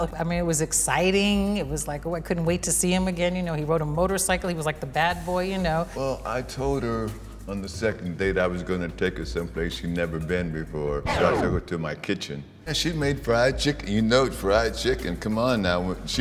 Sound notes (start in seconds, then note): 11.0 record scratches